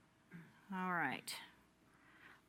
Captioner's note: silence